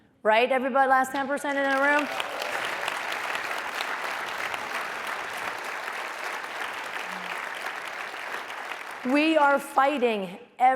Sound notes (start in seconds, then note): 1.4 applause